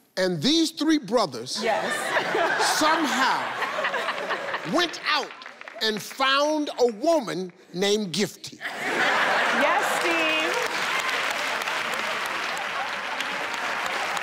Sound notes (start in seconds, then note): 1.6 audience laughing; 8.8 audience applauds